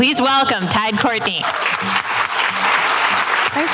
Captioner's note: applause